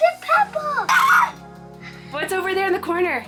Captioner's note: excited squealing